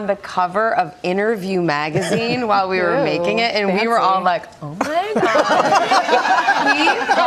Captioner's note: laughter